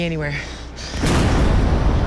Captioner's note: explosion